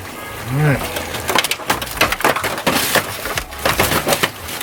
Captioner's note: foil rattling